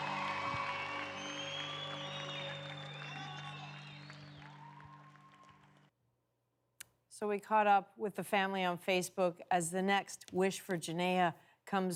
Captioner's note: cheers and Applause